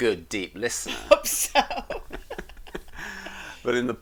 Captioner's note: both laughing